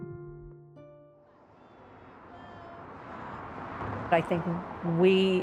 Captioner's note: traffic rumbles